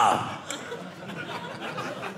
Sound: audience laughing

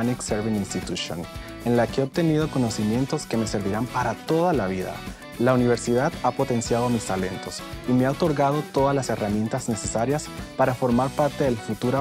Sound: speaking in Spanish

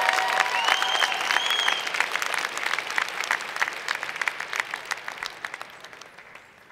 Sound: cheers and Applause

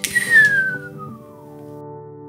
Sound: whistles

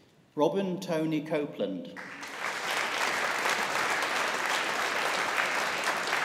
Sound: audience applauding

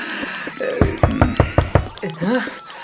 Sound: door banging sound again

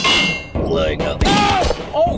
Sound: gunshots

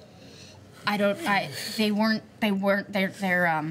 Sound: stammering

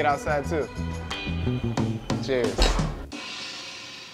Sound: glasses clink; symbol crashes

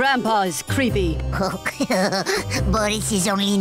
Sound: chuckles

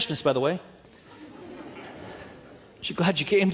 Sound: audience laughing

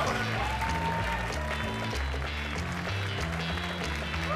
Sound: audience clap

